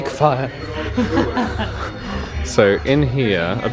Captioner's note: laughing